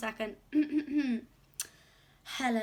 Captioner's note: clears throat